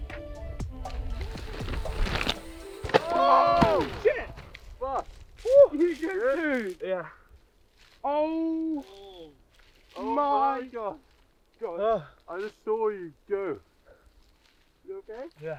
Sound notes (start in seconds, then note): 0.8 bike tires on bracken; 2.4 rear hub clicks